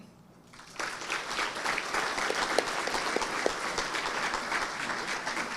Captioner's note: audience applauding